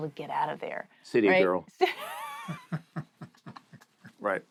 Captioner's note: laughter